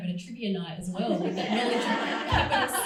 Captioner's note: crowd laughs drowns speaker